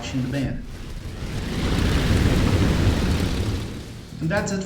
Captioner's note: aircraft Engines ,Gunfire, Flying Sounds